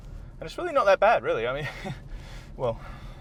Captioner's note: laughing nervously